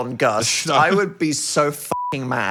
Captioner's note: beep